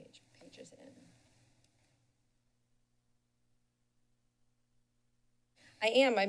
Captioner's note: silence